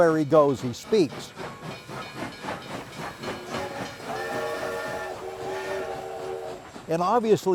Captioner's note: train rumbling; train horn blaring